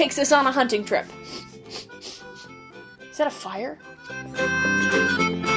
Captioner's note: sniff, sniff